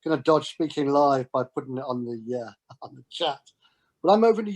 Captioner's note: laughs